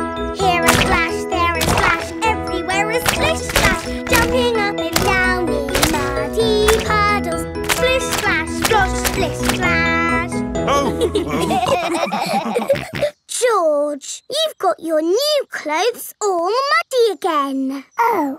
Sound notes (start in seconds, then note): 10.6 all laughing